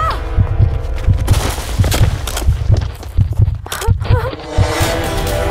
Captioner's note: Screams; Heartbeat; Sobbing